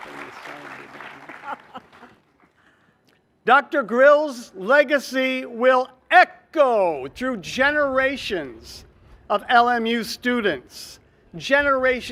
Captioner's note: cheers and applause